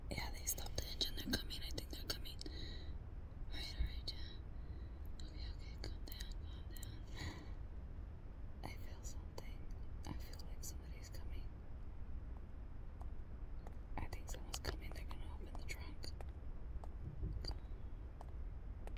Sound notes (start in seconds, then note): 3.3 Janet speaks Spanish; 12.6 footsteps pattering